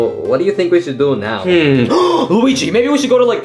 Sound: gasping

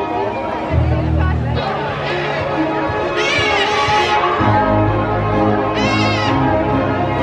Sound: macaws squawking; spirited orchestral music

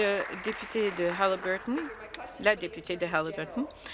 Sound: applause

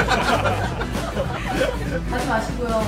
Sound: laughter

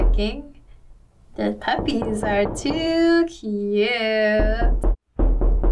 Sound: knocking

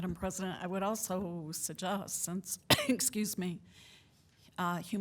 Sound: coughs

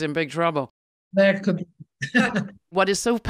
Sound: laughs

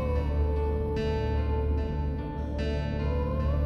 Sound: none

